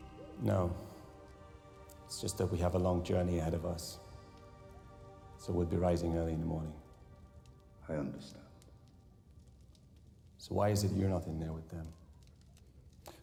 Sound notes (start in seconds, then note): none